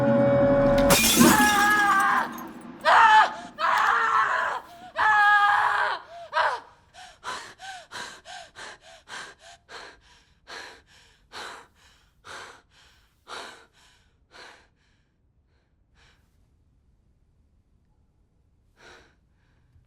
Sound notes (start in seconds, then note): 0.6 glass breaks; 6.9 woman panting